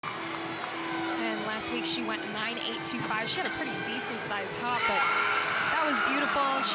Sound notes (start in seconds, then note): 0.0 crowd cheering